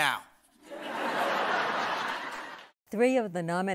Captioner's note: laughter